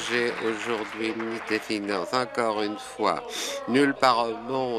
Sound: applause

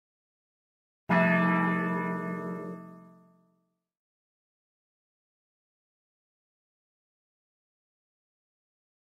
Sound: church bell

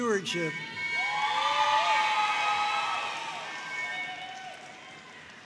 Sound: audience cheering and applauding

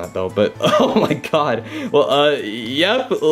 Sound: chuckles

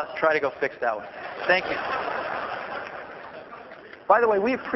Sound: laughter

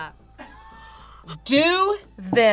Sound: React laughs

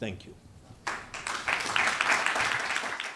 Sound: applause

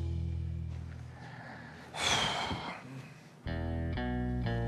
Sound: exhales sharply

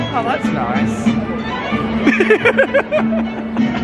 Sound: laughs

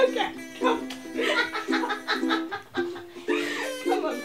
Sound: Bea cackling

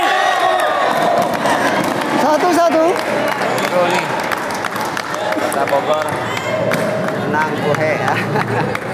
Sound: applause

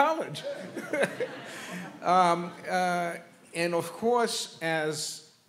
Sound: laughs; laughs

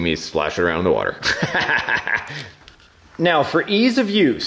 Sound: laughs

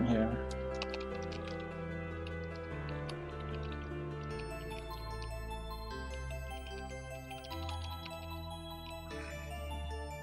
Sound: typing

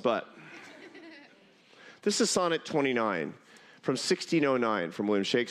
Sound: laughter

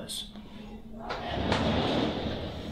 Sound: whoosh

